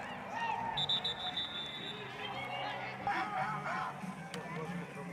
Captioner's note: whistle blowing